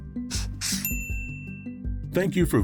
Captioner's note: bell rings